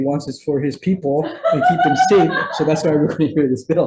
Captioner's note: person laughing